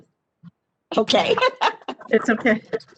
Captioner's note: laughs